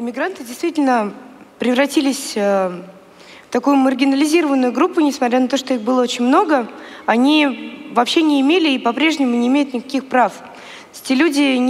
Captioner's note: foreign Language